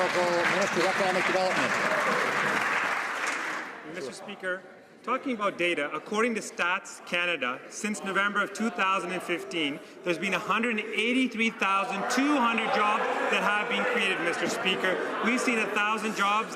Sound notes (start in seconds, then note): 2.2 some Applause